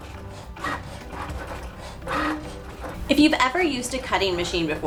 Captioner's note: machine whirring